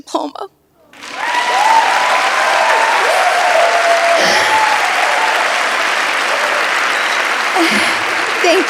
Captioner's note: audience applauds